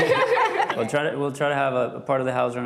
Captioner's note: laughing